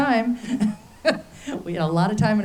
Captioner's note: laughs